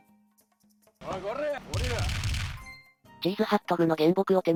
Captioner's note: hitting sound